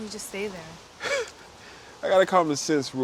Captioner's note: Reed laughing